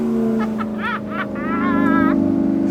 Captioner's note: laughs